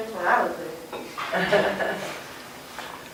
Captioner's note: laughter